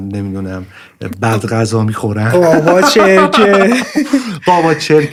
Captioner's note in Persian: خنده